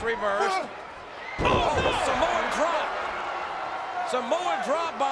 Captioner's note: Rock and Undertake thudding